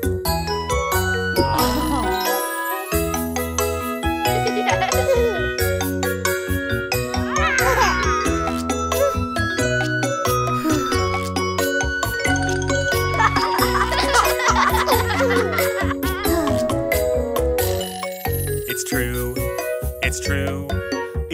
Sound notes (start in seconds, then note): 4.3 chuckling; 10.6 sighing; 13.0 chuckling; 16.1 sighing